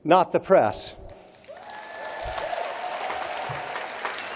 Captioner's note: applause